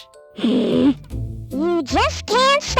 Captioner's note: annoyance Growl